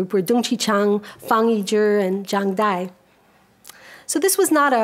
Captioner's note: speaks a foreign language